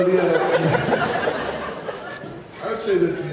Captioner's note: laughs